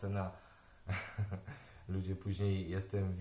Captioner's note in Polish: śmiech